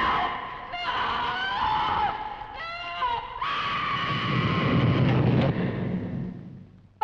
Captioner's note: Nan screaming; screams